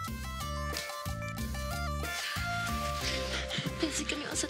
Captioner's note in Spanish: Sonido al romper las burbujas